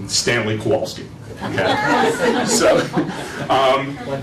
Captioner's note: laughter